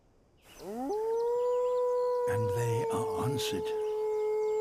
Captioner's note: deeper howl